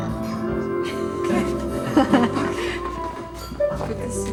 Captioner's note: chuckles